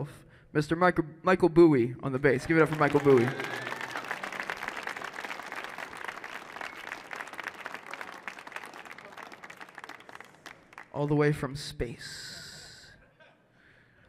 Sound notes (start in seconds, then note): 2.4 applause